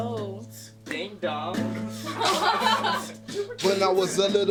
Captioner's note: laughter